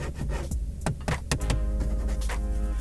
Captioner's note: scratches; thud; scratches; knock